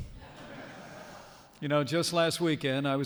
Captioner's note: laughter